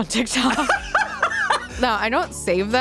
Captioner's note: laughs